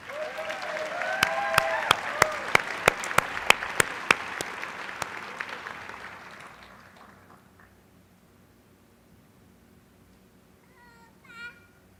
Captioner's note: applause